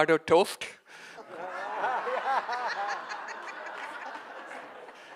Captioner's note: audience laughing